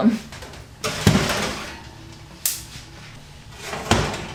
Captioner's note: rattling sound